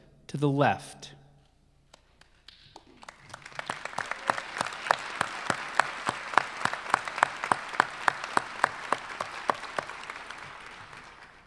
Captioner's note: applause